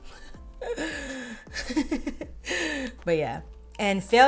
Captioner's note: laughing